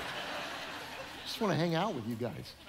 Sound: audience laughing

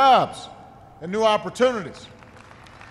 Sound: applause

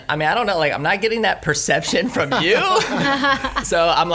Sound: laughs

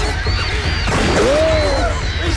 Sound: gunshot

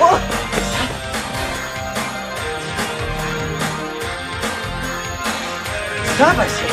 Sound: huffing and puffing and other sad smoker noises

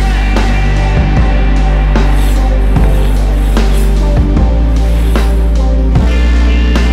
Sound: cyclist zooming

